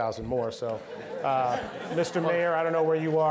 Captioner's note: all laughing